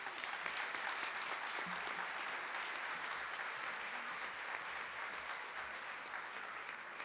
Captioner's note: applause